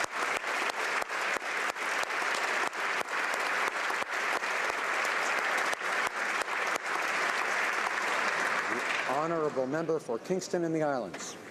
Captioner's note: applause